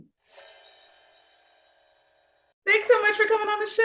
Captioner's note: air whooshing